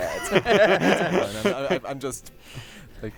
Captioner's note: laughter